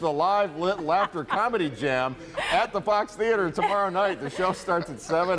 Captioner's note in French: laughter; laughter